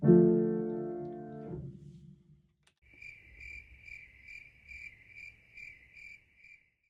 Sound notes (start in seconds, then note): 2.8 crickets chirp